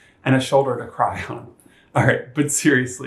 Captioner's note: chuckles